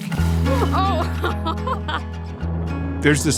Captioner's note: laughing